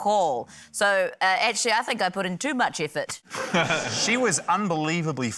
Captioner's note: laughter